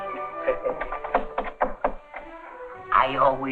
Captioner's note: knocking